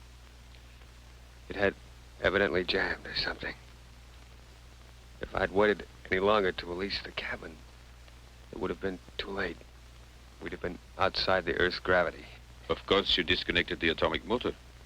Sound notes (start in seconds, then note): none